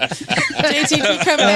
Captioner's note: laughing